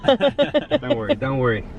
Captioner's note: laughing